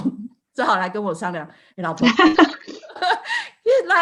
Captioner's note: laughter